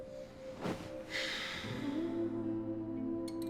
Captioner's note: sigh